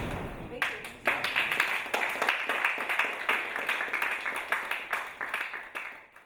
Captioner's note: applauding